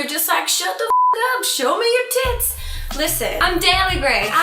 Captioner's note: beep